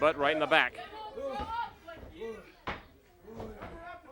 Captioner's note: crowd chatter